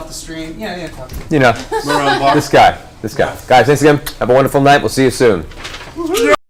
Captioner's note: laughs